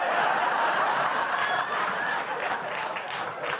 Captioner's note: laughter